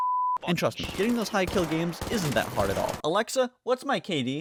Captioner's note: sarcastically